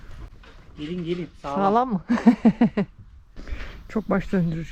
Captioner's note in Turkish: kahkaha